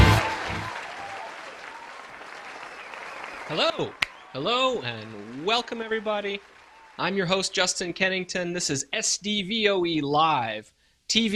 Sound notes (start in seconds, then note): 2.2 audience cheering